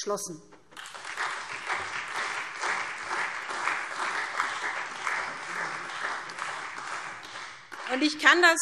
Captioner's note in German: Beifall SPD